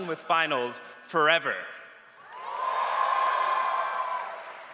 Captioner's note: cheers and applause